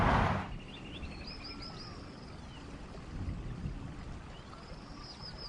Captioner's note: birds chirping and water rushing